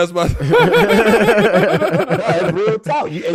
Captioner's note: laughing